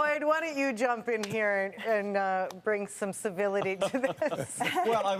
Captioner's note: laughter